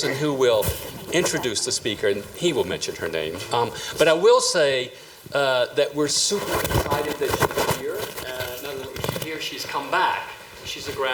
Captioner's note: speaker off mic